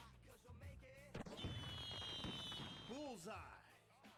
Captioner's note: fireworks popping